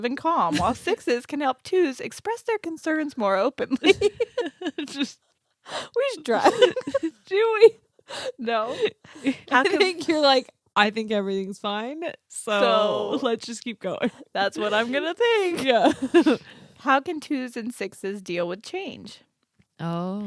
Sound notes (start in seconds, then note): 3.7 giggling